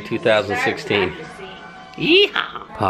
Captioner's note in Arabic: يضحك